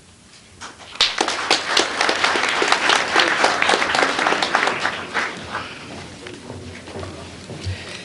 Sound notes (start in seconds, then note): 0.6 applause